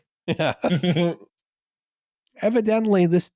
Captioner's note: laughs briefly